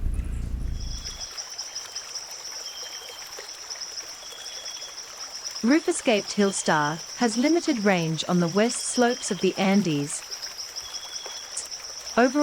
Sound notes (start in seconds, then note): 0.0 bird chirping; 0.0 bird's wing flapping; 0.8 birds singing; 1.3 river flowing